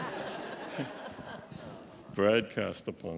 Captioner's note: laughter